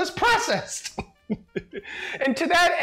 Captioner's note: laughs